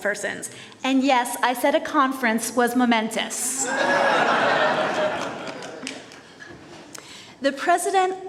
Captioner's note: laughter